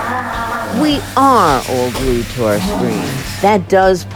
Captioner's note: manny growls in frustration; podcast Voice